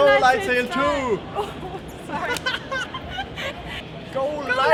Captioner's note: both laughing